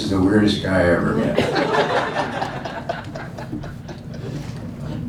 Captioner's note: laughing